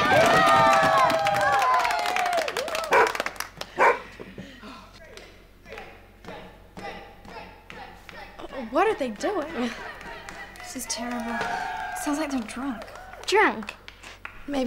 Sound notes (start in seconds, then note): 0.0 cheering and applauding; 3.8 dog barking